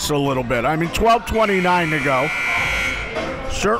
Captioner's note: buzzer rings